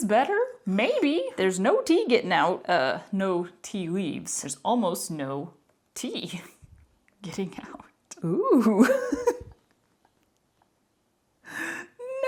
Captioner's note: laughter